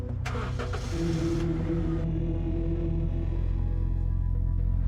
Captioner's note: car engine revs